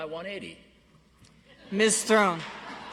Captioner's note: audience laughs